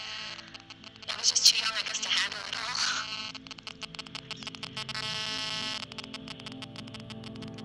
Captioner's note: voice cracks